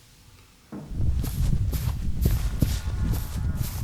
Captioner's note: footsteps